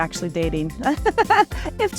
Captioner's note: chuckles